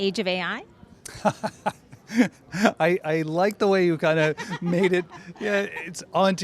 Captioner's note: laughs